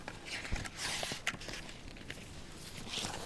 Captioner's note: flips page